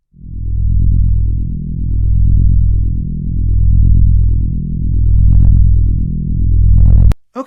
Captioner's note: low reverberations